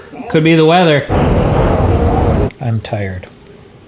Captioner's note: harsh wind blows